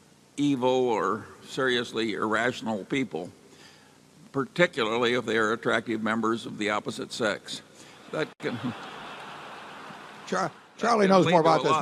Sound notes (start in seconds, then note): 8.4 laughter